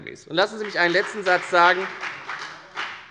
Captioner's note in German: Beifall bei der FDP